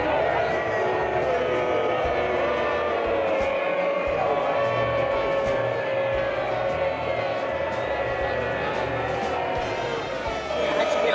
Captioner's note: crowd Boos